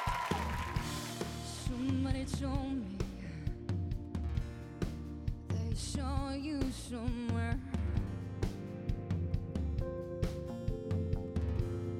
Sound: applause

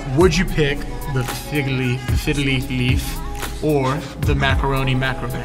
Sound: none

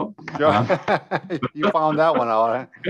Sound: laughs

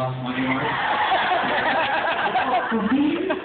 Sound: laughter

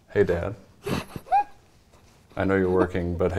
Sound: laughing

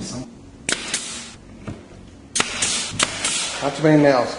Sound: nail gun shooting

